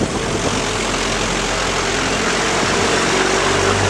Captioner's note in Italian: AR59 di Marco in accelerazione